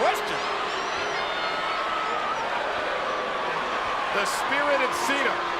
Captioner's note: crowd chattering continues